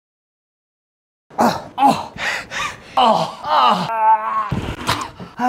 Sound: man grunting

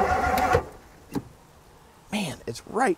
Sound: vehicle engine stops

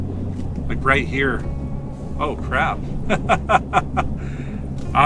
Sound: laughs

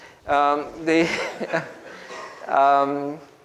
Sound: group laughs

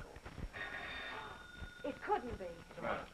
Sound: phone ringing

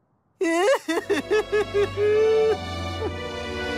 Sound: ugly crying

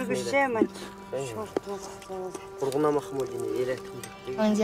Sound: family speaking Uyghur

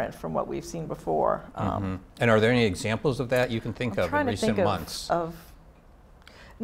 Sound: none

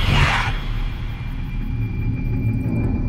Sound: demonic howls

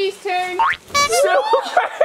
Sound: horn beeping; people laughing

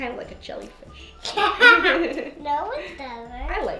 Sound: laughing

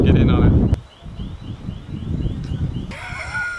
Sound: alarm blaring; laughs

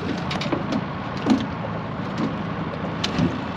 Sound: boat engine idling; fish splashing; clattering

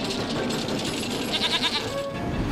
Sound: bleats

